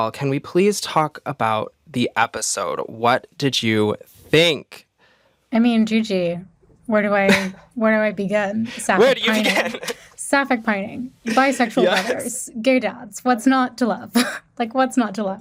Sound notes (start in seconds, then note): 9.2 chuckles